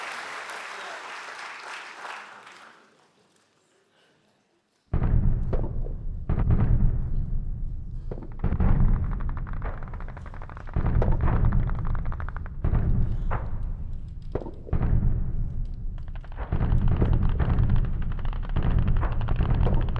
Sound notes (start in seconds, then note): 0.0 audience applauding; 5.6 war sounds